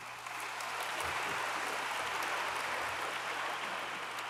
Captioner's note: audience applauds